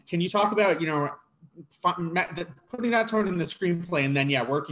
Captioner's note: stutters